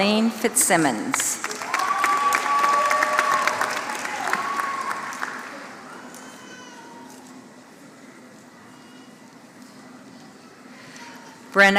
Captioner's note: applause